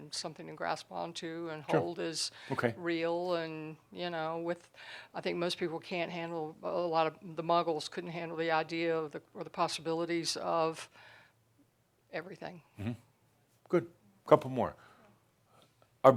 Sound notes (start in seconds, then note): none